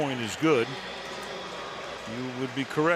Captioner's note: pa announcement